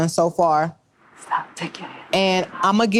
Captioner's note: whispers